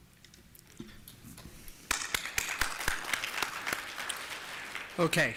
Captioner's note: applause